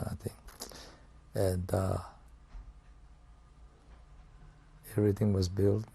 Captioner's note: pauses for 3 seconds